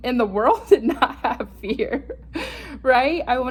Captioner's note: laughs